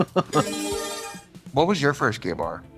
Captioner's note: bright chime